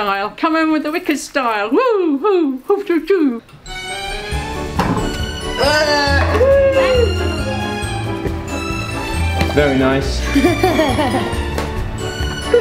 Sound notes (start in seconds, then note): 3.9 bright music; 5.6 whoops; 10.3 laughs